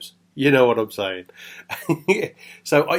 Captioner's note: chuckles